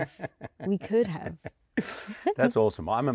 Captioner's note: laughs